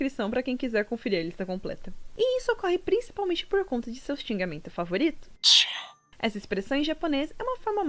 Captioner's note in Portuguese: tch